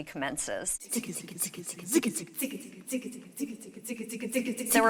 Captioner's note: chanting in Serbian